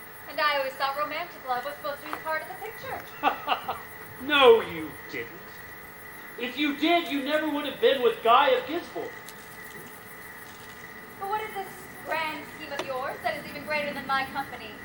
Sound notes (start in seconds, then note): 2.8 laughs